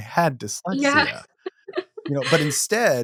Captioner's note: chuckles